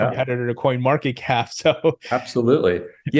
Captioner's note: laughs